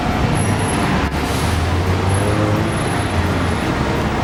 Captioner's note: street sounds